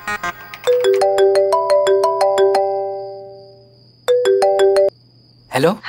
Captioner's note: Phone ringing